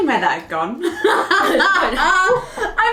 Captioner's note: laughing